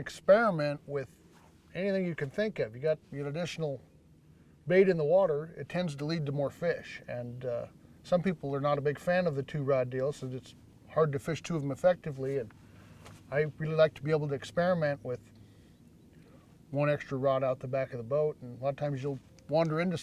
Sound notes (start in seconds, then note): none